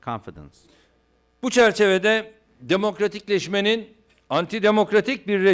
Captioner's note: non-english speech